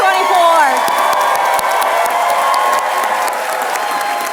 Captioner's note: applause